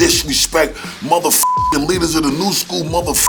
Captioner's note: beep